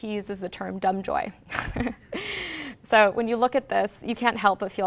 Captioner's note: laughs